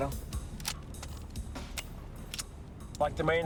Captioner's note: gun clicking